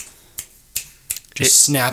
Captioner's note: finger snapping